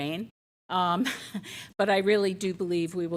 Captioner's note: chuckles